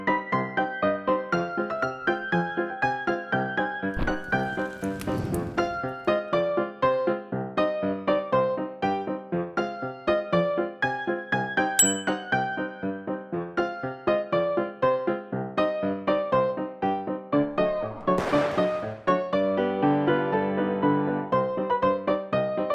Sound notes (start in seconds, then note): 0.1 whimsical piano music continues; 3.9 crackle; 3.9 fire woosh; 4.0 big whoosh; 5.9 whimsical piano music continues; 11.8 bell ping; 12.6 whimsical piano music continues; 17.5 smash with echo; 18.6 whimsical piano music continues